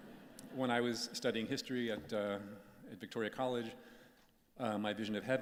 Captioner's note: chuckles